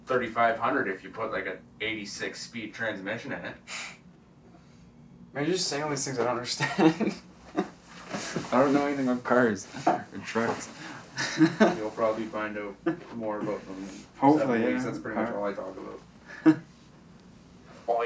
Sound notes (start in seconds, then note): 5.2 laughs